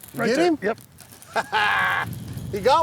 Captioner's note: chuckles